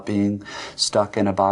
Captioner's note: breathes in